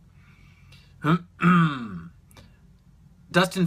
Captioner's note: clears throat